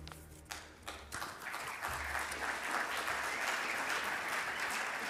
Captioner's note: audience applauds